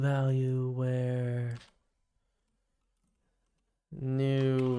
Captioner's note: silence